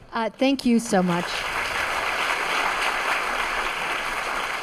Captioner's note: students clapping